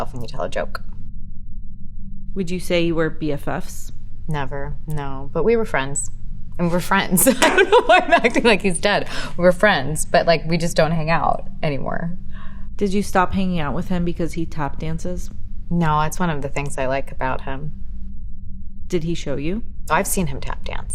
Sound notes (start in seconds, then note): 7.2 laughing